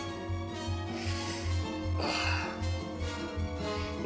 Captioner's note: sighs